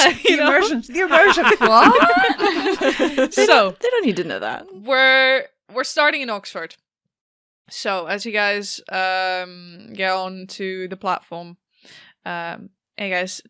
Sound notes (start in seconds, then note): 0.0 laughing; 0.0 laughs; 2.6 laughter